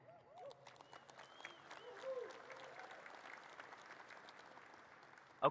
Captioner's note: audience cheers and claps